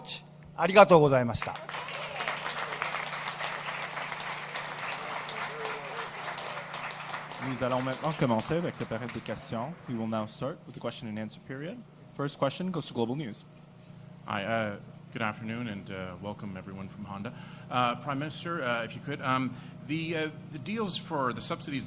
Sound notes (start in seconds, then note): 5.5 applause